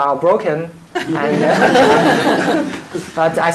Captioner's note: laughter